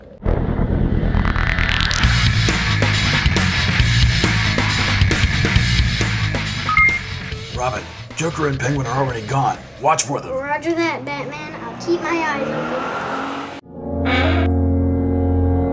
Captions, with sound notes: [Beep!] Robin! Joker and Penguin are already gone! Watch for them! Roger that, Batman! I’ll keep my eyes open!